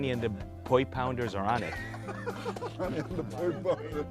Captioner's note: laughter